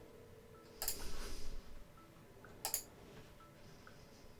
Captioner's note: mouse clicks